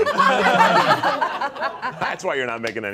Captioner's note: all laughing